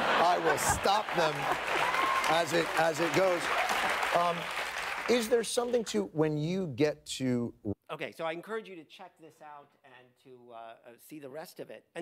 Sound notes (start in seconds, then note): 3.6 audience cheers and applauds